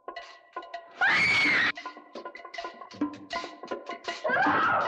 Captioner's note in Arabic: يصرخ